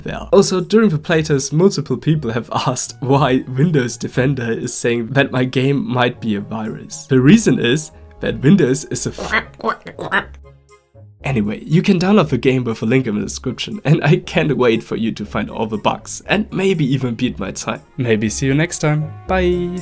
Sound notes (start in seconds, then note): 9.2 quack quack quack